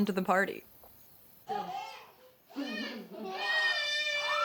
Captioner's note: children crying